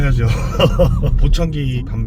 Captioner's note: chuckles